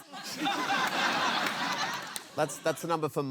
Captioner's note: laughter